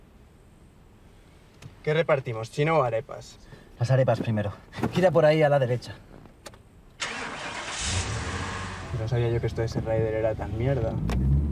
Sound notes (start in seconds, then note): 7.0 engine starting